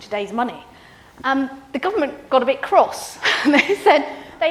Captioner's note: laughs